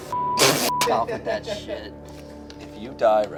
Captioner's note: beep